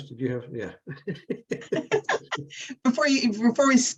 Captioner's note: chuckling